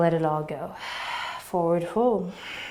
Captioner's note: exhaling